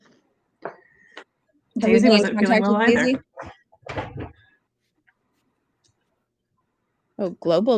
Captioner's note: chatter